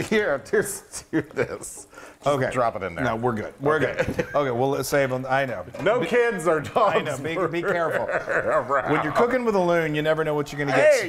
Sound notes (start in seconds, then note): 6.7 laugh